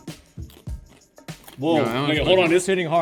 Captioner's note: lotus root crunching